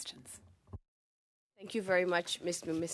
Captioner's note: speaking French